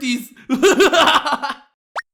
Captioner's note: yang laughs more